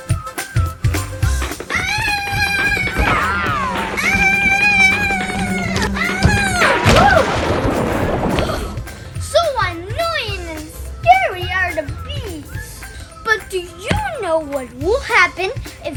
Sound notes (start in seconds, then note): 1.7 screams; 4.1 bees buzz; 6.9 water splashes